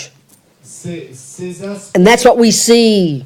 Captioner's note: French